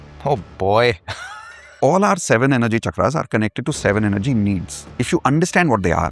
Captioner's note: laughter